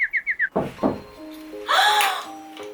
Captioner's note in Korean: 똑똑